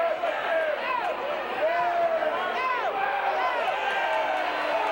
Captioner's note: audience indistinct yelling